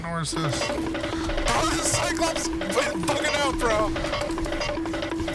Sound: cartoon Running Sound effect

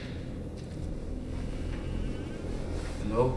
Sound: footsteps; door creaks

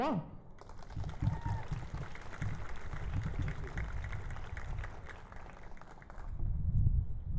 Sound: cheering & Applause

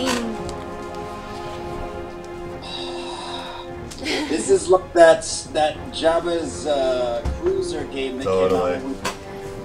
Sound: gasps

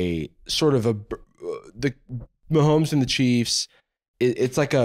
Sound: stammering

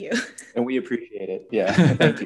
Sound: laughing; chuckles

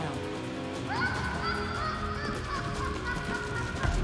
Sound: clown laughs

